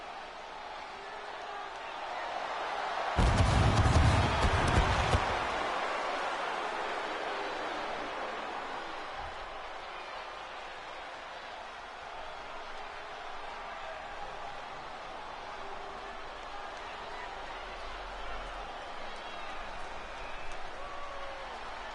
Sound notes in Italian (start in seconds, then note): 0.0 Applauso; 4.7 Applauso; 19.2 Applauso